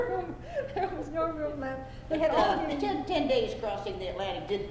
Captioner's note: laughter